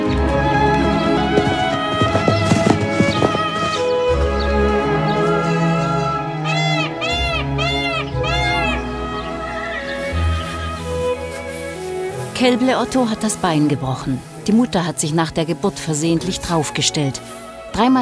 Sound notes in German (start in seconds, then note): 0.2 Sanfte, bewegende Musik; 6.3 Pfauenschrei